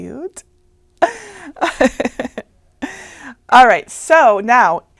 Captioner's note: laughing